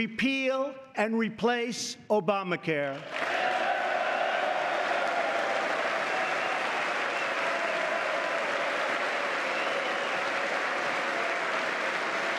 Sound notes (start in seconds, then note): 0.0 applause; 7.1 cheers; 9.1 applause